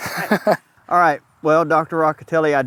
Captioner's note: both chuckle